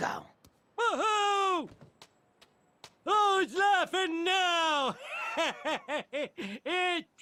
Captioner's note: Laughs at God